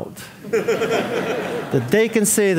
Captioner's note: audience laughing